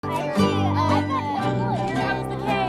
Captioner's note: kids chatting